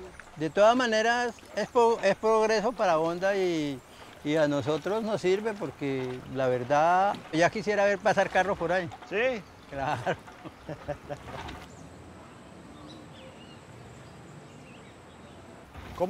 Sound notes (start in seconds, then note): 0.3 speaking in foreign language; 6.6 speaking in foreign language; 9.7 fisherman laughs; 11.1 waves lapping; 13.0 birds chirping